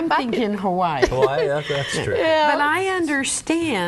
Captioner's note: laughs